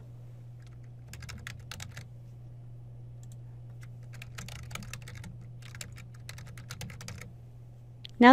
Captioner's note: typing